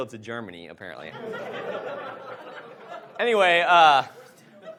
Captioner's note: audience laughs